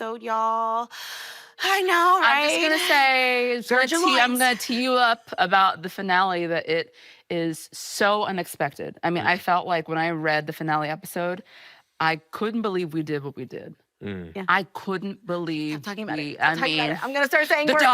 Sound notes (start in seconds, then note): none